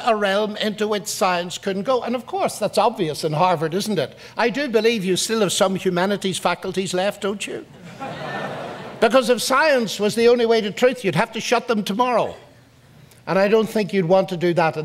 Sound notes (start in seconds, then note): 7.8 audience laughs